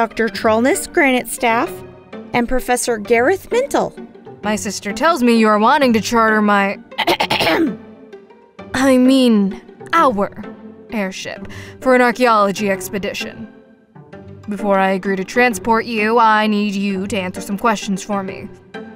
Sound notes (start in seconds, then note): 7.0 clears throat